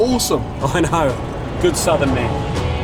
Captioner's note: laughs